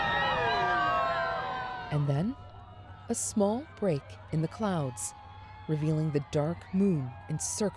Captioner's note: cheers and Applause